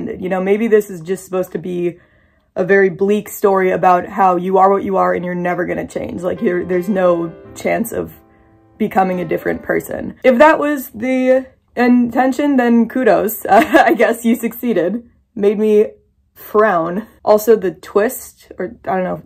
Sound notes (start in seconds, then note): 6.1 sad piano music; 13.1 laughs